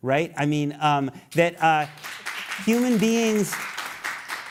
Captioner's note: applause